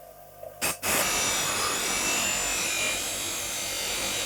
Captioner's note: grinder whirring; metal grinding